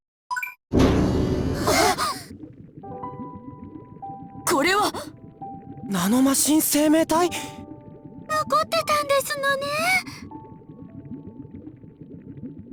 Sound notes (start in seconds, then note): 1.6 gasp